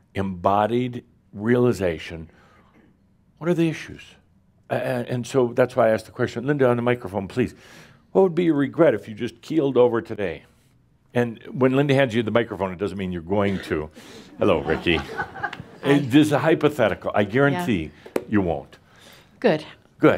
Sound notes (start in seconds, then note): 14.6 some chuckles